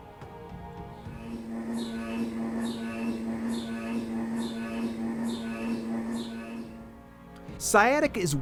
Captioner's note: sounds of an magnetic resonance imaging machine hums in the background